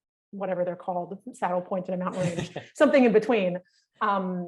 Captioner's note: laughing